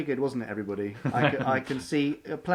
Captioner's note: laughs